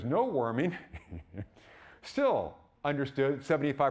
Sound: laughing

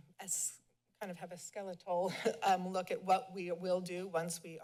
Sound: chuckles

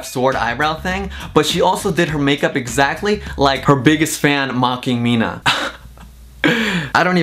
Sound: laughs

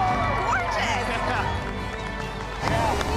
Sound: chuckling

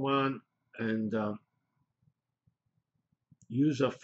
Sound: pause

